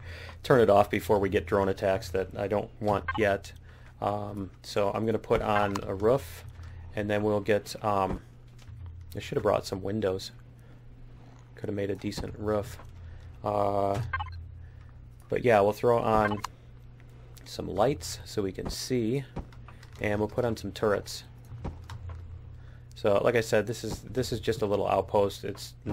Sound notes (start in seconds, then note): 16.1 beeping